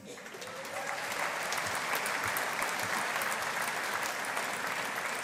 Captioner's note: audience applauding